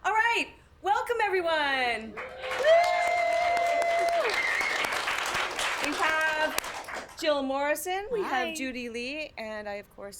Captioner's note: applause